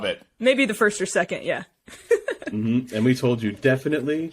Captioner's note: laughing